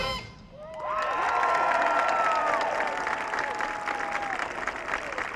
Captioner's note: audience cheering